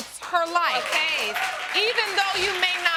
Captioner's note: audience applauding